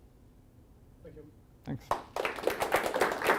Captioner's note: applause